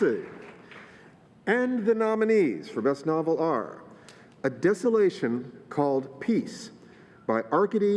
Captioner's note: applause